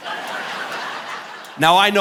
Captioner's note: audience laughing